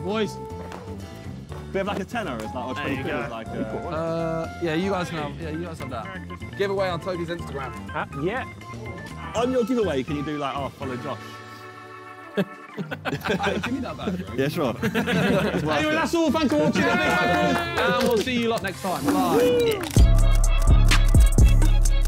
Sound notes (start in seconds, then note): 12.1 men laughing; 19.2 upbeat music